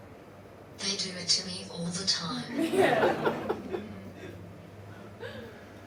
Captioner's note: audience laughs